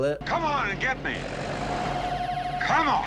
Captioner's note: engine humming